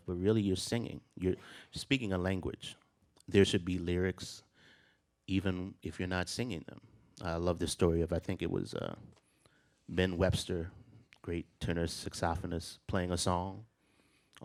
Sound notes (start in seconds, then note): none